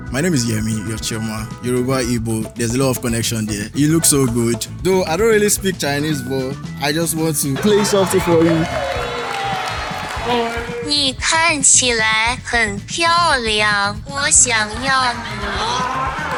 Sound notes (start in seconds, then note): 8.8 cheers; 10.2 laughs; 10.5 speaking Mandarin